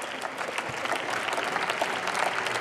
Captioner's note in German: Beifall